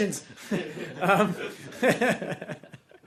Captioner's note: laughter